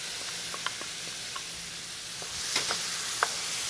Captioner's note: sizzling sounds